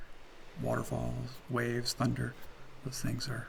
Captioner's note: roaring waterfall